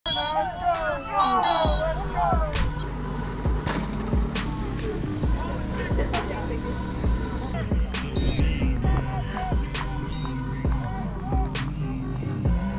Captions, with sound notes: [whistle blows] - Let's go! Let's go! Let's go! [indistinct chatter] [whistle blows]